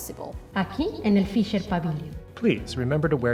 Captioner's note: speaking in Spanish